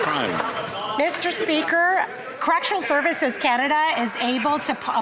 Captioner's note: some Applause